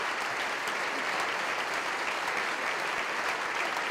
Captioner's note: clapping